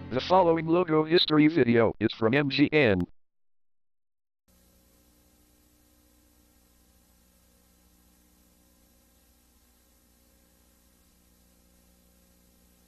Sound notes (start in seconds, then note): 4.5 VHS static